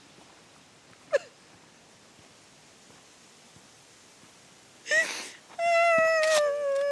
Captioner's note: crying loudly